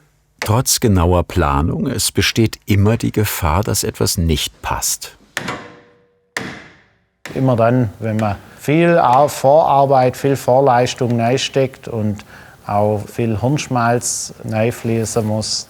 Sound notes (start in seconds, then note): none